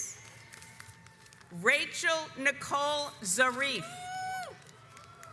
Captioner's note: audience applauds